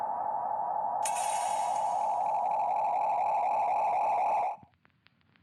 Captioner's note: glass shattering